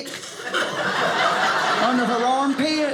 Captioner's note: audience laughing